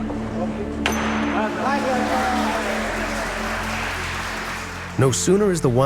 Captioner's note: glass smashing; congregation clapping